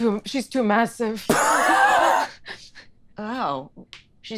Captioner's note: laughs